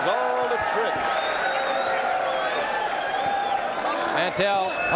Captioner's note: audience cheering